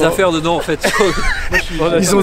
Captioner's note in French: Rire général